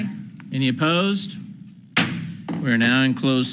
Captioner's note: gavel bangs